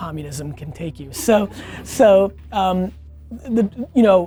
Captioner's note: team laughing